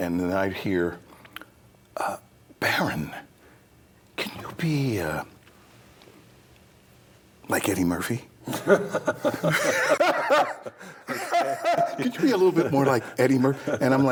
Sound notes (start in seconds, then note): 8.5 all laugh